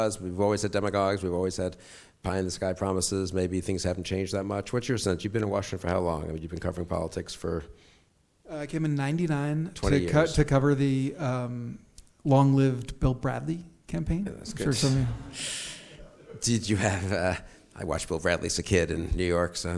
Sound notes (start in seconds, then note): 14.4 mutters